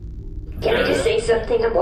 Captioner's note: transmission-end noise, muffled laughter